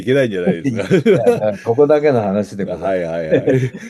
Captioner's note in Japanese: 笑い